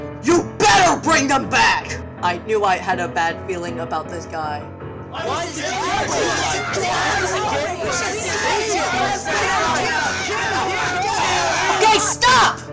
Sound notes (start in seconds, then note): 5.1 overlapping arguing